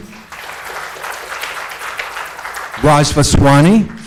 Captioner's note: audience applauds